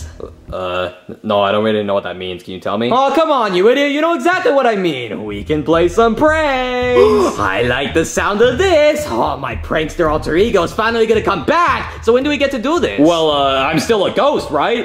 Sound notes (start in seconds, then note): 6.9 Luigi gasping